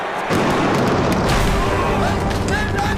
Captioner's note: gunfire